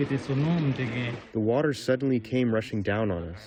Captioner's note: through translator